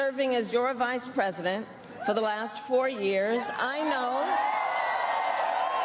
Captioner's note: cheers and applause